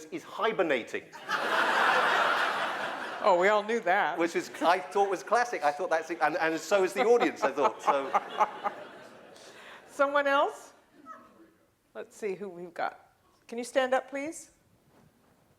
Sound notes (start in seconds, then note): 1.1 laughter